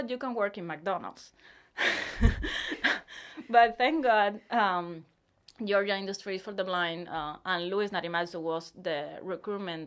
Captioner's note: laughs